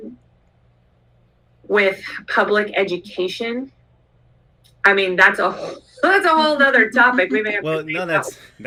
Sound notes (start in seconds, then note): 5.9 laughter